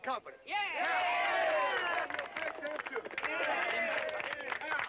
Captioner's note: crowd cheering and clapping